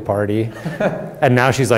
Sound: laughing

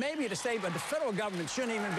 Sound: applause

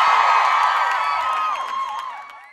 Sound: applause

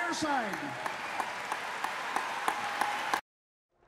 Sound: applause

